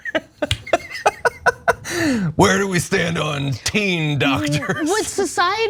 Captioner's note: laugh